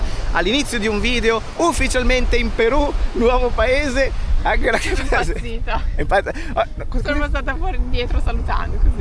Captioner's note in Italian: risate